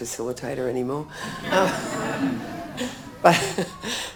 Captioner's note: audience chuckles